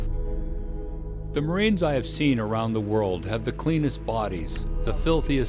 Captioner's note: voiceover